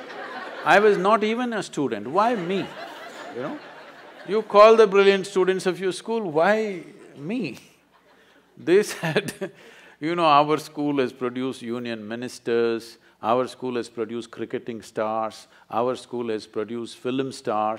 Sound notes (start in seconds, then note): 8.7 laughs